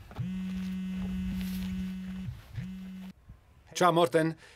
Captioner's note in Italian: squillo cellulare